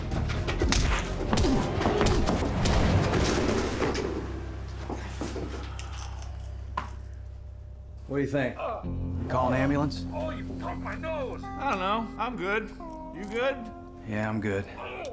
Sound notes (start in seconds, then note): 0.6 punching; 8.4 man groaning